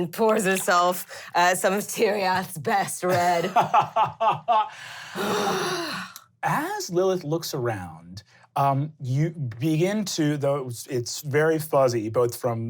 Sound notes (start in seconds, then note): 3.0 laughing; 4.6 sighing